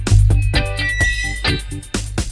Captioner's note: brakes squeaking